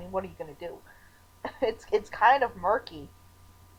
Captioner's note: chuckling